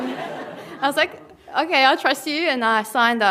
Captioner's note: laughter